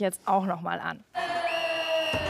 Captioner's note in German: Pfiff